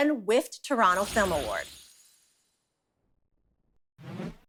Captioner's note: transition sound